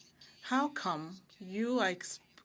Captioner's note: speaking French